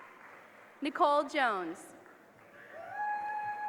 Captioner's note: applause